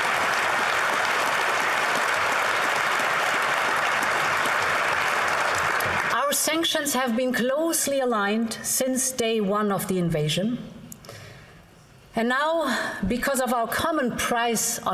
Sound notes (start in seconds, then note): 3.5 applause